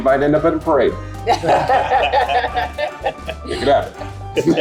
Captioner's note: group laughs